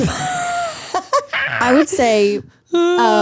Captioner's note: laugh